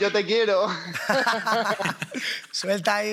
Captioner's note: laughs